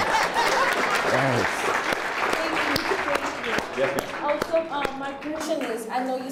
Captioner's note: applause